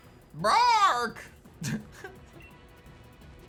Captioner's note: giggles